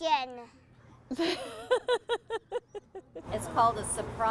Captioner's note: laughing